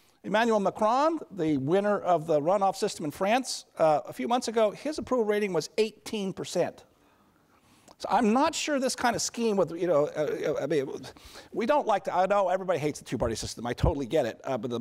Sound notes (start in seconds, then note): 9.8 stammering